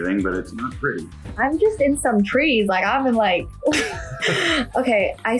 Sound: laughs

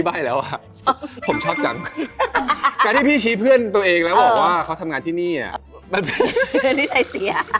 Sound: laughs

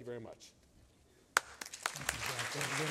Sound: applause

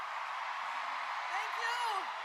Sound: song ends, cheers and applause

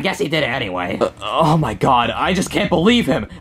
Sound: burbs

